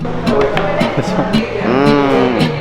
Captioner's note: people talking ambience